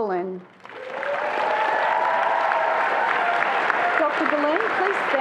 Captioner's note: attendees applauding and cheering